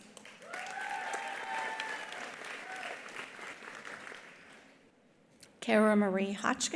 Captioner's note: attendees applauding; attendees cheering